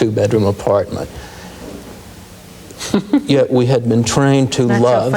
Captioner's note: laughs